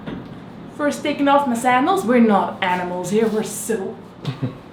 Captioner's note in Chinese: 哈哈